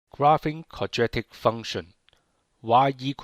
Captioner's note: voiceover